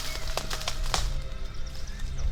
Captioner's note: rustling leaves